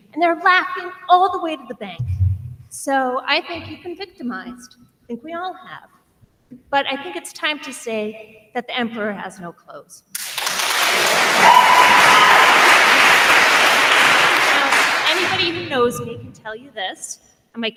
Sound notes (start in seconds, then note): 10.1 attendees applauding; 11.0 attendee cheers